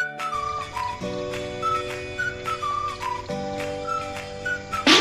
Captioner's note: birds chirping